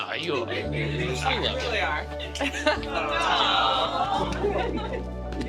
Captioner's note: crowd exclaims